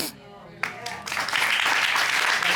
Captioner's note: applause